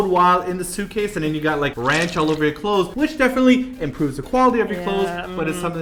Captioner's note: splat